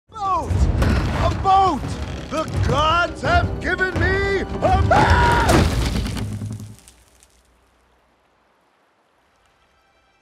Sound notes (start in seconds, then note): 4.7 Maui screams; 6.0 boat thuds